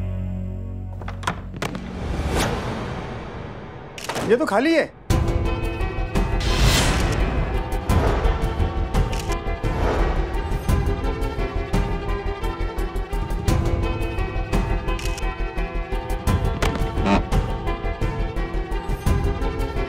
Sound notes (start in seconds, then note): 2.0 dramatic music; 4.5 camera clicking; 6.3 dramatic music; 16.9 box creaking